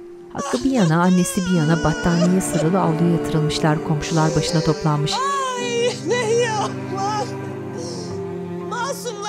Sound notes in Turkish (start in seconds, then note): 0.3 Ağlama sesleri